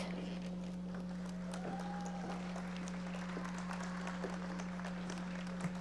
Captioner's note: audience members applauding